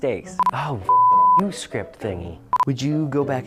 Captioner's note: beep